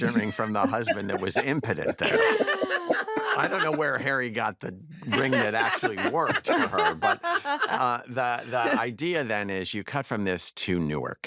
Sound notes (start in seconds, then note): 2.0 all laugh